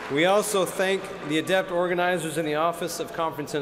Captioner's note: cheers and applause